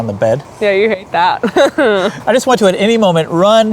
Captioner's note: laughs